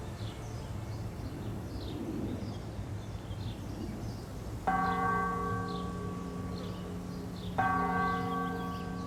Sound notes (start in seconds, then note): 4.6 church bells chiming